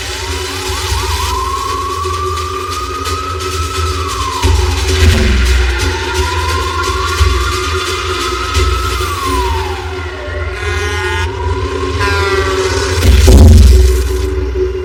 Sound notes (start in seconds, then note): 10.2 truckck honks; 12.6 car crashes